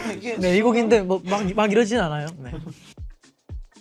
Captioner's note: laughs